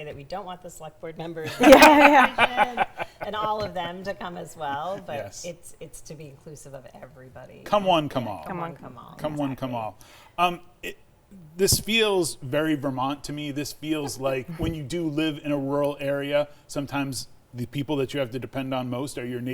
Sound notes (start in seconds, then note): 1.5 laughter